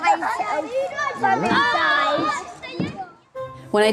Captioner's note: yells